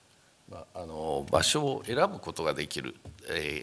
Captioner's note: speaking japanese